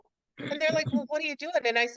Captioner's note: clears throat